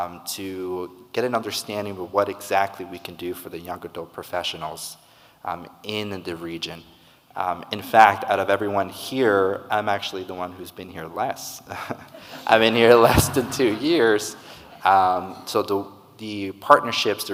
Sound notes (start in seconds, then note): 11.7 laughs; 11.8 audience laughing